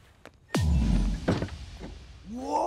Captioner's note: Door closes